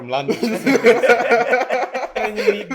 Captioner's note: laughter